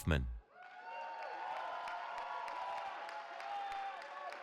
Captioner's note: cheering